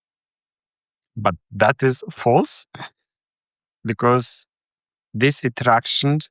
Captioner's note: chuckles